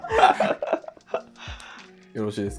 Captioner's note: laughing